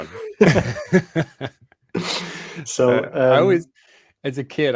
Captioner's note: laughter